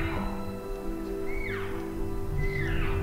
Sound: caller cow calling

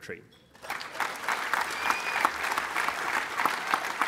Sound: applause

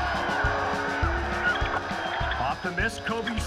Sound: cheering

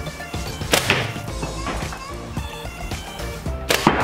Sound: thwack; thwack

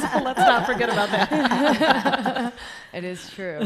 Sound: laughs

